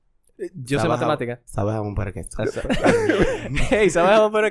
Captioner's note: laughs